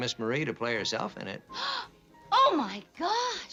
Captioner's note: gasping